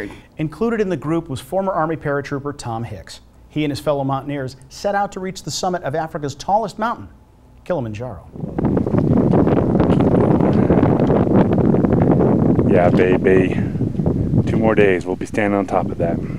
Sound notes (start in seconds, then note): 8.0 wind blowing